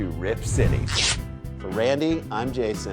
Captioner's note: sound of something ripping